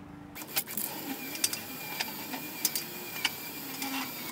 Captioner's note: chain pulling